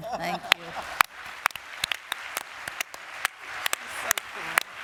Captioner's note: applause